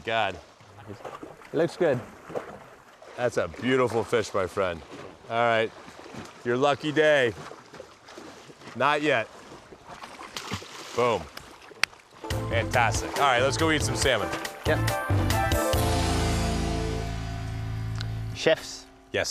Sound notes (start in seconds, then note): 9.9 splashes